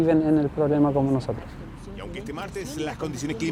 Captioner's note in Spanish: reportes radiales sobrepuestos